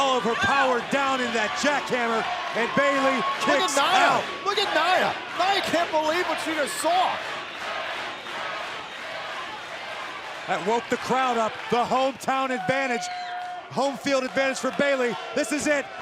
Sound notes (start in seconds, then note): 9.1 crowd cheering